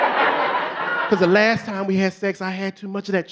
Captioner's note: audience laughing